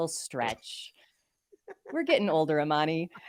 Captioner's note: chuckling